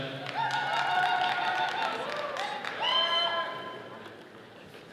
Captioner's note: attendees cheering